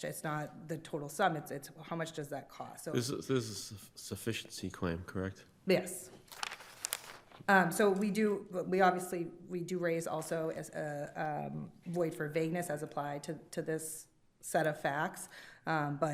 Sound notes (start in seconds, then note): 6.2 paper crinkling